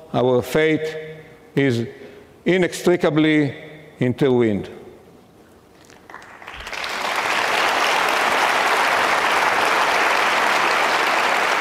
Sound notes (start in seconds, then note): 5.8 audience clapping